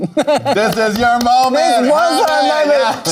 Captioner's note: Lady Camden laughing